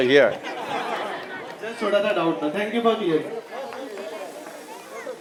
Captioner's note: laughter; speaks in Hindi - not transcribed